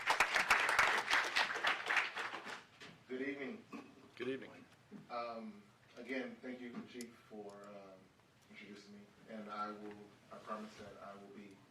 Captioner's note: applause